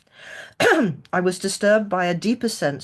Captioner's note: clears throat